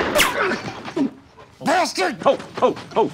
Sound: grunts

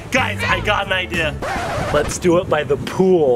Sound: record scratches

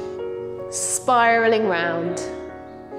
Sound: none

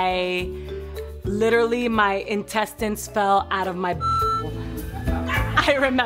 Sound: beep; people laughing

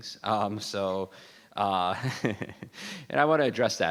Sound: laughs

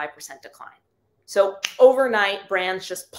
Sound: finger snaps

